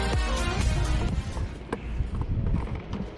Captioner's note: sound of water and wind